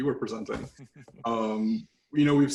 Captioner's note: laughing